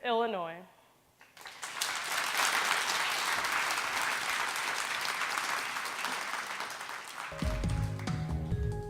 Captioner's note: clapping